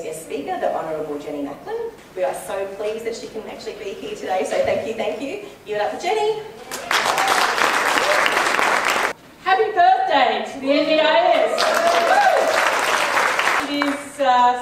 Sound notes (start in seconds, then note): 6.6 audience clapping; 11.4 audience clapping